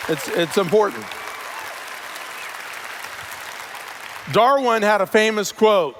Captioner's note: cheers; cheers/Applause